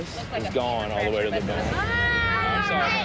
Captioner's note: scream